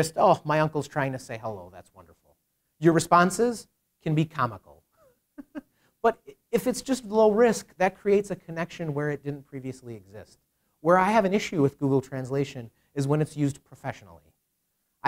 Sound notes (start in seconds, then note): 5.3 chuckles